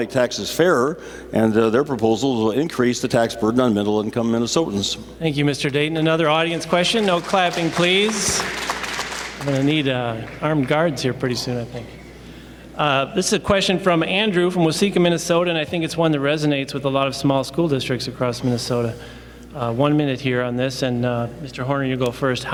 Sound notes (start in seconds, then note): 6.4 applause